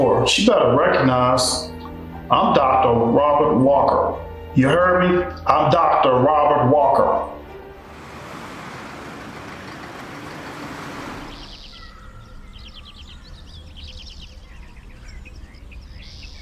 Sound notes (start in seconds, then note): 9.0 traffic humming; 12.0 birds chirping